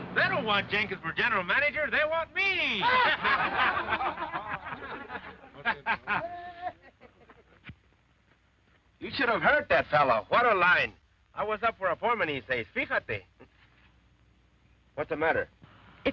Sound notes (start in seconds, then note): 2.7 all laughing